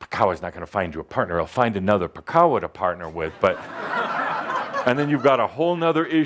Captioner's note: laughter